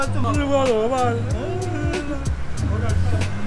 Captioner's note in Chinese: 哭 x 2